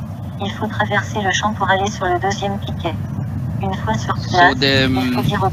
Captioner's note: woman speaking in foreign language